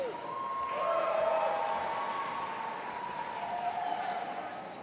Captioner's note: audience applauding